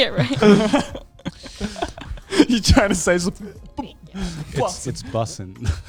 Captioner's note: laughing